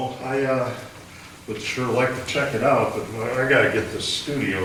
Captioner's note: none